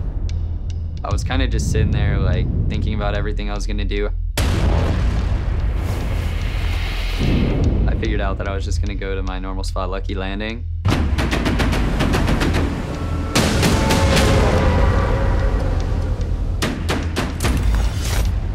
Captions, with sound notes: I was kinda just sitting there, like, thinking about everything I was gonna do. (air swooshing) I figured out that I was just gonna go to my normal spot, Lucky Landing.